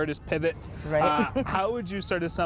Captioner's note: chuckling